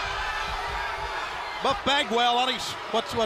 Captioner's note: crowd chatter